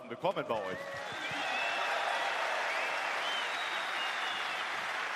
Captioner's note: applause